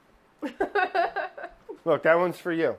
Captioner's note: laughing